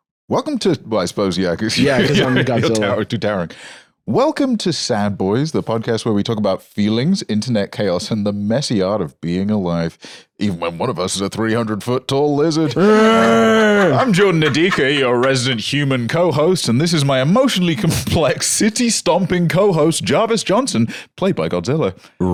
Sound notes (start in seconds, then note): 13.0 growls